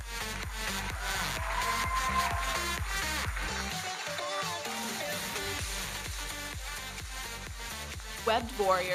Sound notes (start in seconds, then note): 0.6 audience cheering and applauding; 5.1 electronic dance music